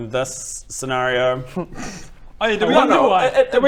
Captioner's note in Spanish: risa burlona